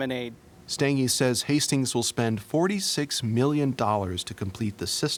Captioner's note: voiceover